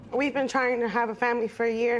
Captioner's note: voice breaking